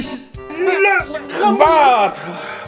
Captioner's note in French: grognements